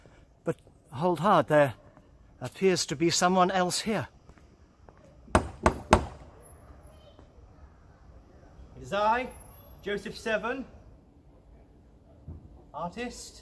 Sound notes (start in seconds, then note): 5.3 knocks on the door